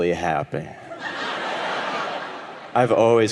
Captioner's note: audience laughing